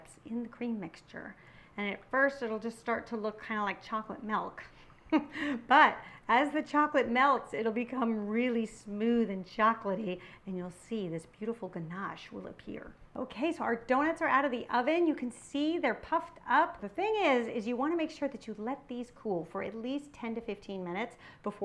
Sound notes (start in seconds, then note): 4.9 chuckles